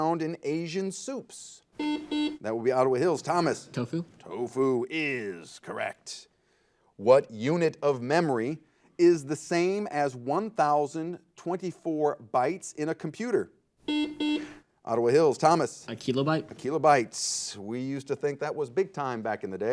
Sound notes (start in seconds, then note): 1.8 buzzer; 13.8 buzzer